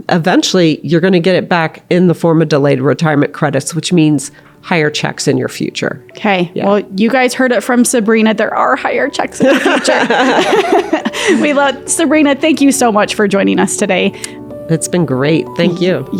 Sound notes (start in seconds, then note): 9.4 laughter